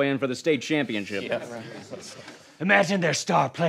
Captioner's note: sounds of agreement